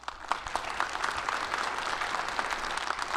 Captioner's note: audience applauds